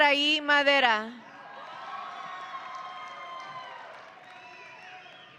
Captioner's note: audience cheering